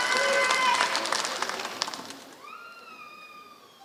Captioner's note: applause